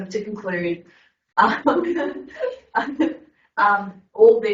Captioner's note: everyone laughing